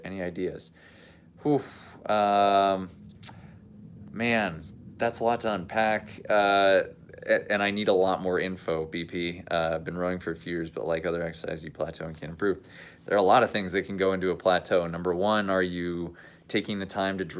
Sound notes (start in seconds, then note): 1.4 sigh